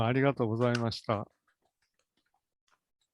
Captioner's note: speaks in Japanese